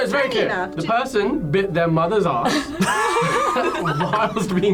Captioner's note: group laughs